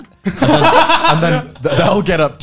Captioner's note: laughing